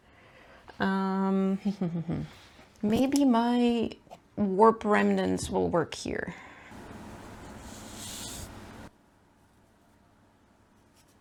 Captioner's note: piece of string whooshes out